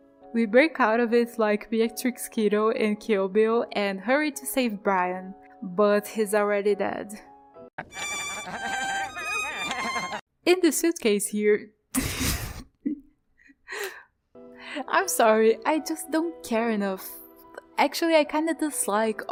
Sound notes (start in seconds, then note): 7.8 sad violin; 11.9 laughs